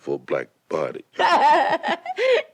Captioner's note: Betty laughs